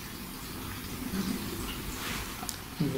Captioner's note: ghostly Voice